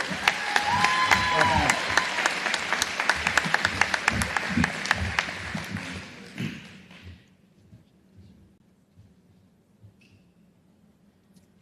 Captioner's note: applause